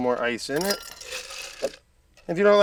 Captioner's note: ice rattling